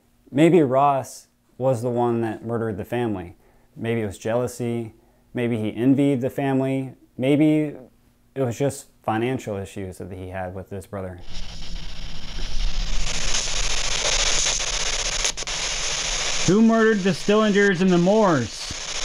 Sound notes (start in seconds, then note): 11.2 static